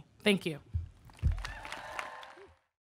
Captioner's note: audience clapping